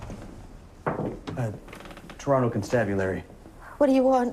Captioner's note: knocking